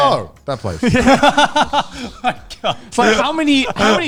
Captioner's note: laughing